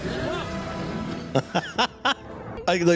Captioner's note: laughing